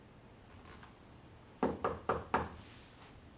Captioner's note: knock at door